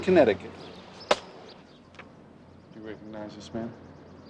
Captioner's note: hand thuds